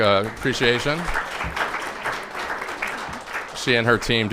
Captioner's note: all applauding